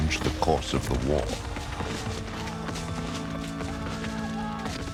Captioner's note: cannons blasting